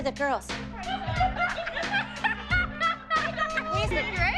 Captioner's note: girls laughing